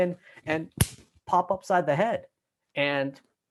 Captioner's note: smack